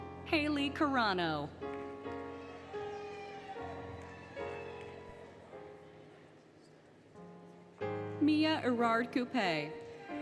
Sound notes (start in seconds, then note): 2.0 applause, Cheering, Music; 2.1 cheering, Music; 9.8 applause, Cheering, Music